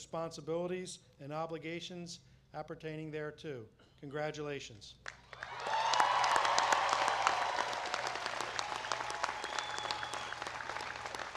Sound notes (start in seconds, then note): 5.0 applause